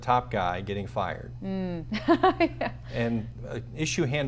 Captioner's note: laughs